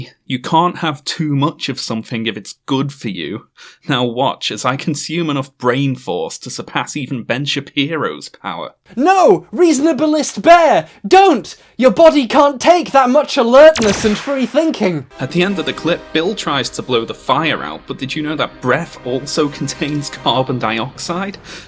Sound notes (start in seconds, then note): 15.7 voice distorted